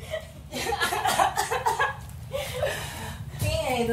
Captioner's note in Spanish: Risas